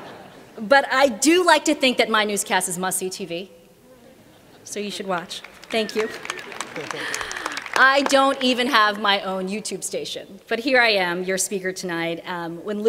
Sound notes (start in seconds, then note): 0.2 laughter; 5.1 applause